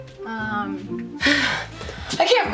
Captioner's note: sighs